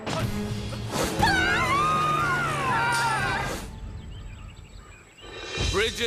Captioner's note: screaming